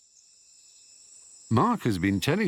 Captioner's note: insects chirping